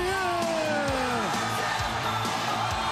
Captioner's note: crowd cheering